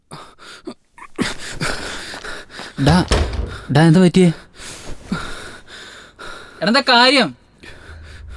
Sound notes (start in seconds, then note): 1.2 heavy breathing; 4.3 heavy breathing continues